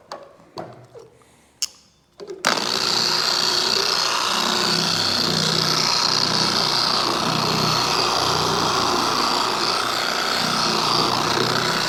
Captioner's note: polisher Noise